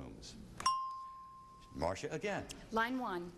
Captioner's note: ding